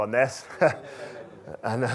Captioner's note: chuckles erupts